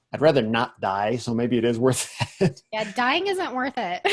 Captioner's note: laughs; laughs